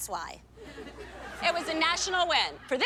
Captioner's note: laughter